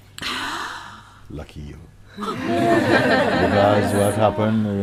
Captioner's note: laughter